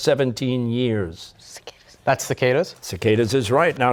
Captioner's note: whispering